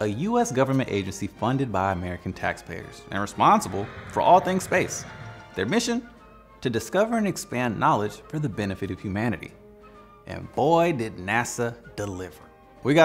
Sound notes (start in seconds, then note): 2.7 rocket whooshing; 5.1 cartoonish music; 6.8 triumphant music